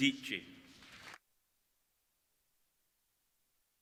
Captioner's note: applauding